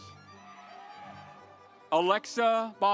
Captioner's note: audience applauds